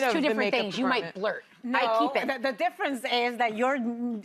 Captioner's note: none